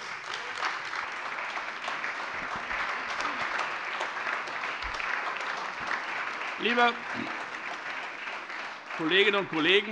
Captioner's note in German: Beifall Freie Demokraten, SPD, AfD und DIE LINKE